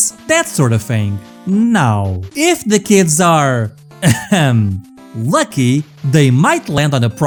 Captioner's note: ahem